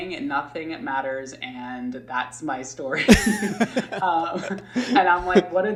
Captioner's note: laughing